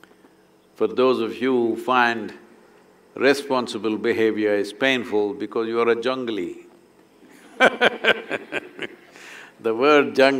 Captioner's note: laughter